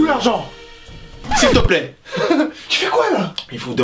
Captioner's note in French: rires